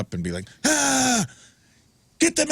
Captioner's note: screams